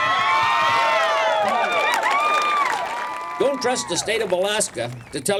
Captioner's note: cheers and applause